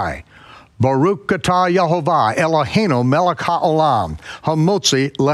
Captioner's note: speaks in foreign language